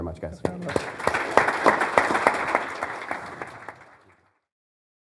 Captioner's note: audience clapping